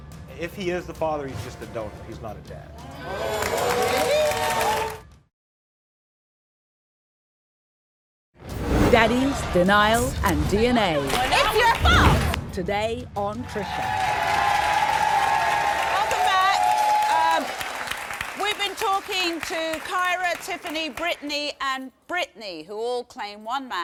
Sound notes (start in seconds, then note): 2.9 audience applauds; 13.5 audience cheering